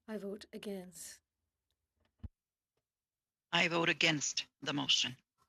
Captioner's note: speaking French